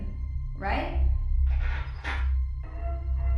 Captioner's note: metal clanking; melodic 1920's music